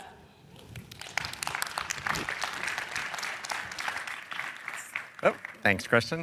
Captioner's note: applause